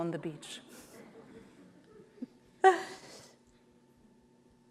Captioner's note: audience laughs